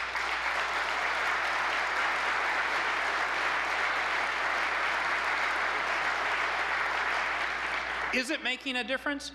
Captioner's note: applause